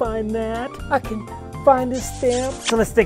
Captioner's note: kissing